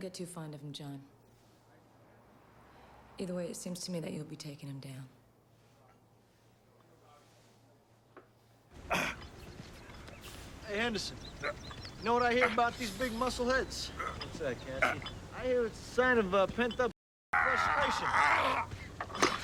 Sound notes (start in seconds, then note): 8.8 Knox grunts; 17.3 Knox grunting